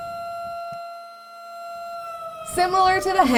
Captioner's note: sirens sounding